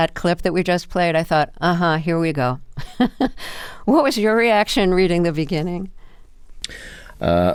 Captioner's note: laughter